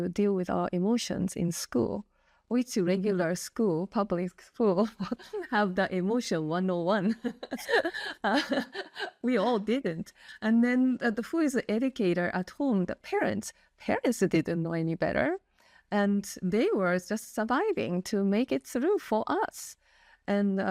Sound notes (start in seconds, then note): 7.1 laugh